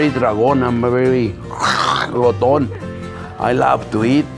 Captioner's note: growling sound